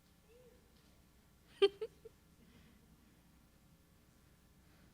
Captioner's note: chuckling